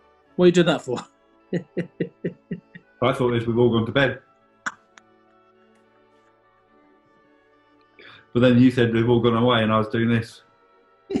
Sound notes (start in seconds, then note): 1.5 chuckling